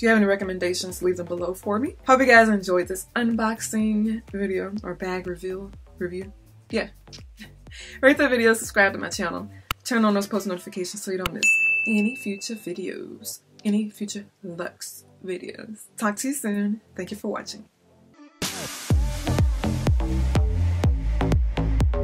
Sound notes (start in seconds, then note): 11.4 bell dings; 18.2 bouncy electronic music